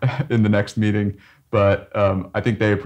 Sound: chuckles

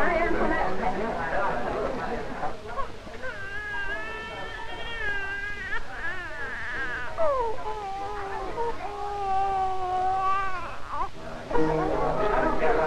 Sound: the baby cries while the party is going on downstairs

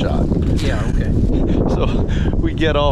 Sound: laughing

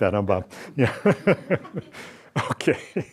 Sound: laughs

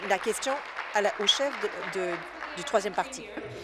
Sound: applause

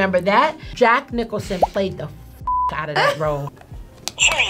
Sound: beep; buzzer

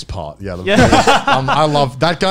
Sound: laugh

